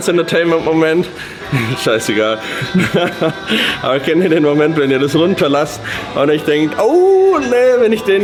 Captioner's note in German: gelächter